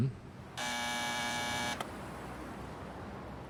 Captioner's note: buzzer sounds